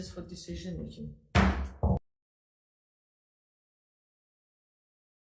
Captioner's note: gavel bangs